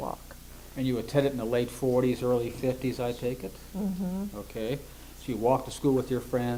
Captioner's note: affirms